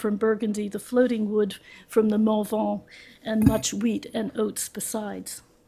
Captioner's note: french